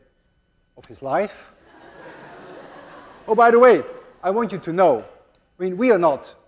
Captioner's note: class laughs